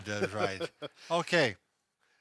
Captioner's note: laughing